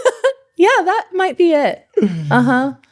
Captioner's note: laughing